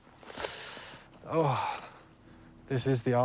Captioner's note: sighs